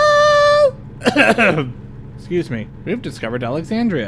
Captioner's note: clears throat